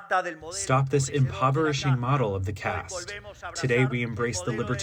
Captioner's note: through translator